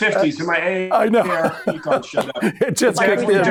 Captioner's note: chuckling